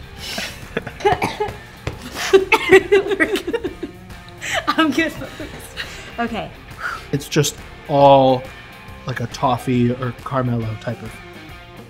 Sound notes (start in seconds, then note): 0.3 laughing; 0.3 coughing